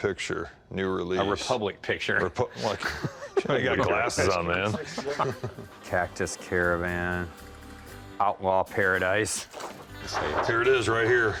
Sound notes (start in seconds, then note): 2.5 laughter